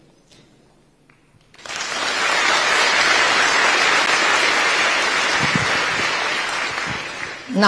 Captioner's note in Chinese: 台下熱烈鼓掌